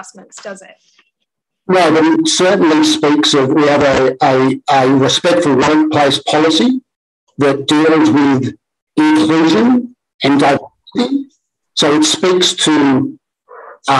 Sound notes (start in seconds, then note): 8.9 audio distorted